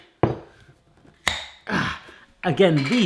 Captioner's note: popping